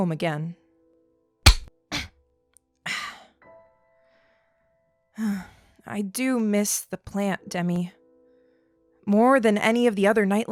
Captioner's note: SFX: cutting a thread